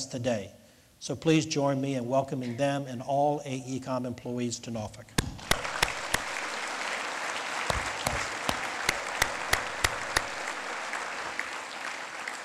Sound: lead Applause

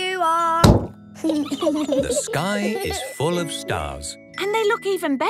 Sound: giggling

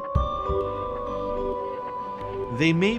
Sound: laughs

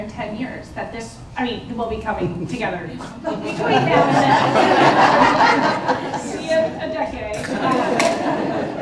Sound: laughter

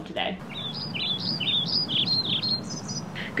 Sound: more bird tweets

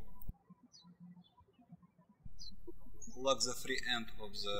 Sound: birds chirping

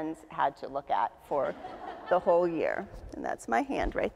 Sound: audience laughs

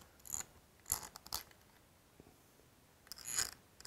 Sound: screws clicking

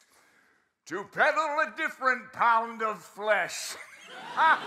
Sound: laugh

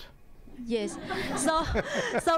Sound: audience laughing

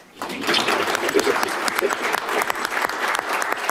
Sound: applause

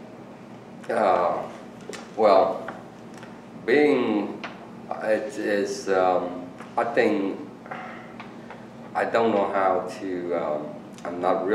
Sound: sighs

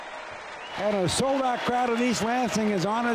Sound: audience cheering; audience clapping

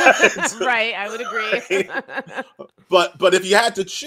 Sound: laughs

